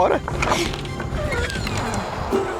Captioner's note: fence creaking